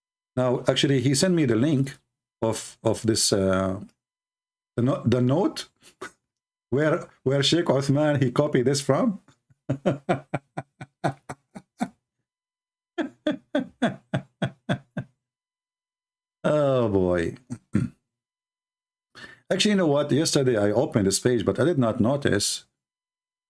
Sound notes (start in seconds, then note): 9.6 Ketawa